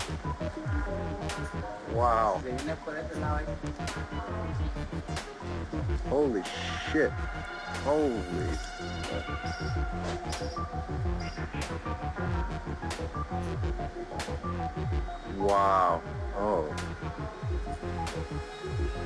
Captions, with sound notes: Wow. (foreign language) Holy beep. Holy. Wow oh,